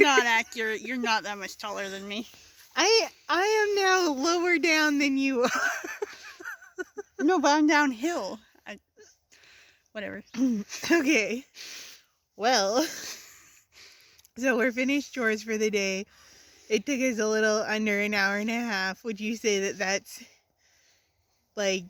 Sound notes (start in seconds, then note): 5.4 laughter